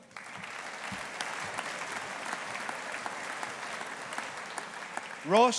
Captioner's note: audience applauding